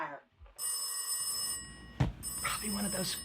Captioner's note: phone ringing